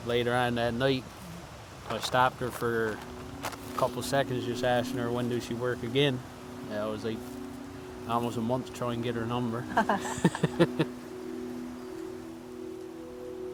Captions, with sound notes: later on that night, I stopped her for a couple seconds, just asking her when she works again. I was like, almost a month trying to get her number. (both laugh)